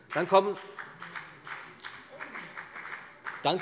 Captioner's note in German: Beifall bei der FDP